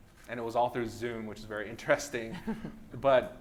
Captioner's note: laughs